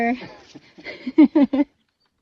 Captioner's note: laughs